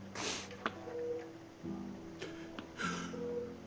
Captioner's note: sniffs